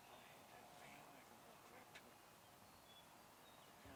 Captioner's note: whispering